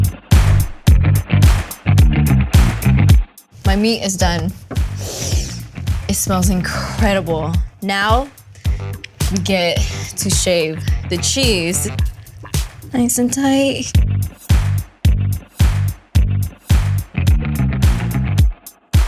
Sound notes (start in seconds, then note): 1.4 rock and roll beat; 3.8 sniffing